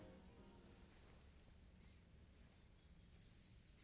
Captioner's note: birds chirping